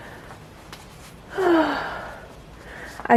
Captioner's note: happy sigh